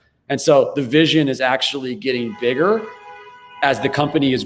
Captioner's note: car honks